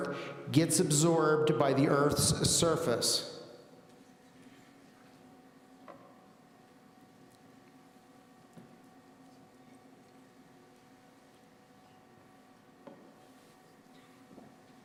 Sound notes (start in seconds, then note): none